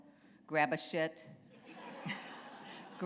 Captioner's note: laughter